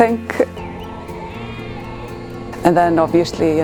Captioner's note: sheep bleating